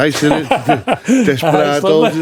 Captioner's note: laughing